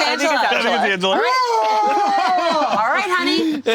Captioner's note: roars